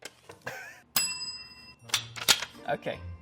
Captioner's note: bell dings